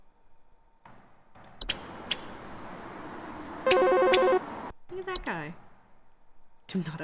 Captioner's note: chirping squeaks